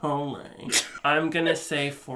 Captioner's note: chortles